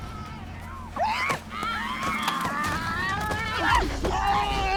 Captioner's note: screaming